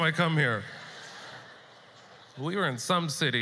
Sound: audience laughter

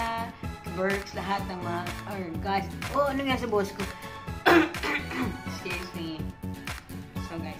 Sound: coughing

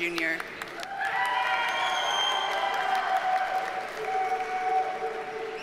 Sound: audience cheers and applauds

